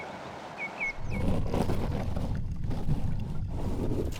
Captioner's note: scrubbing